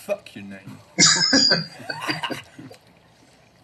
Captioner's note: laughing